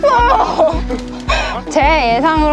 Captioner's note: laughter